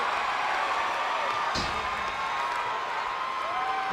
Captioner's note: crowd cheers